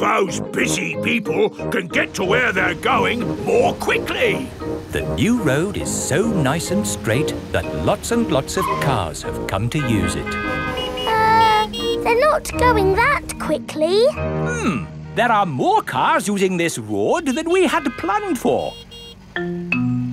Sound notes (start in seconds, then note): 11.3 horns honking